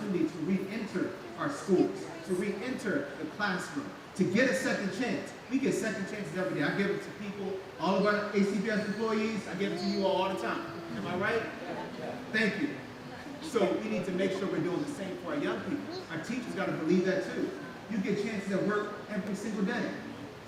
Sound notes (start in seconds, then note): 12.2 crowd